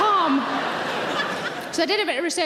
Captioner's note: audience laughing